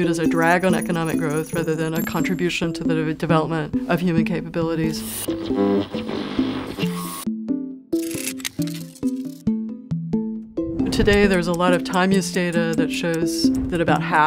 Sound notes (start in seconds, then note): 5.2 electronic sounds; 7.0 gentle music